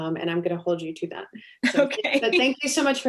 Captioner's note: chuckle